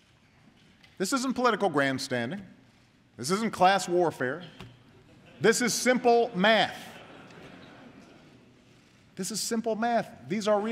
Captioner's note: laughter